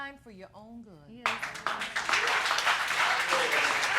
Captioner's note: audience applauding